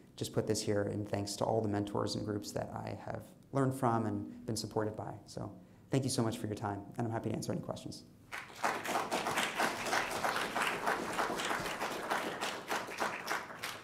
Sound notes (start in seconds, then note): 8.3 applause